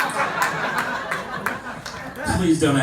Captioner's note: laughter